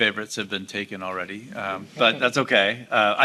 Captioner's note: audience laughing